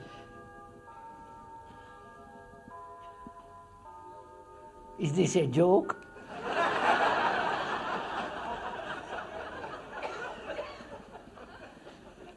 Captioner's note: sound of bells; laughter